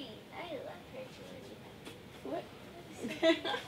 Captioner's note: laughs